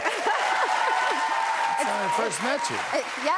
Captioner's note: cheers and applause